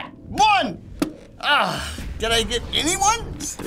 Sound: sighing

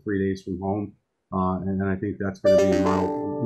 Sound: email alert in background

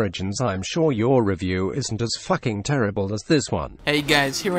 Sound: automated Voice

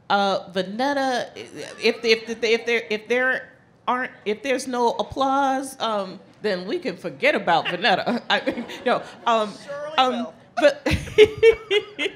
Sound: laughing

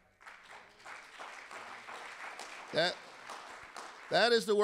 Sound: audience applauding

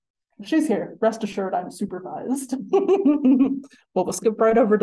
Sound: laughing

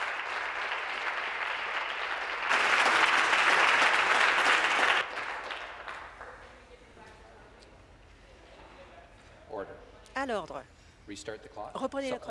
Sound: applause

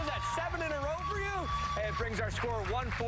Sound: cheers and applause

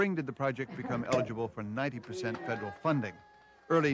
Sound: participants cheering

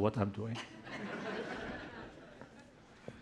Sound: laughter

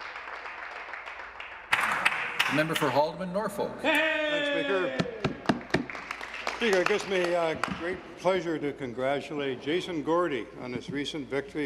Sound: some Applause

